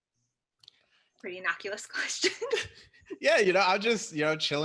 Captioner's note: chuckles